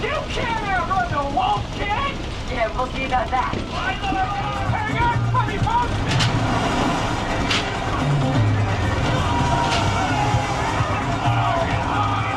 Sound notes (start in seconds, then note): 6.1 tram clicks; 6.1 upbeat music plays